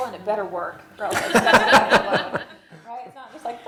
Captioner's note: laughter